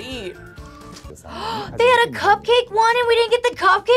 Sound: gasps

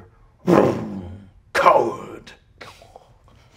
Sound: mimics motorcycle revving; chuckles

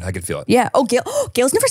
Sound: gasping

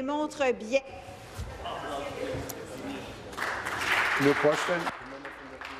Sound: speaking in French

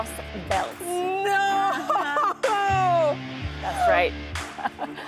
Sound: laughs

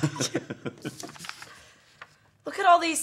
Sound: all three laughing

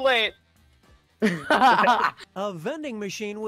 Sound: laughter

